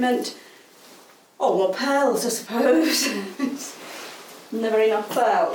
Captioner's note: laughs